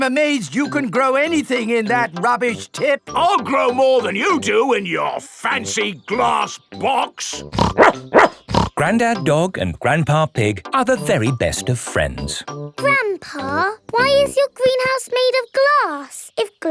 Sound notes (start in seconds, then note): 7.5 snorts; 7.6 barks